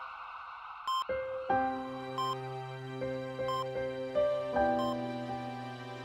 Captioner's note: soft Music; heart monitor beeps